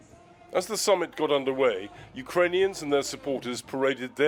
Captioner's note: voice-over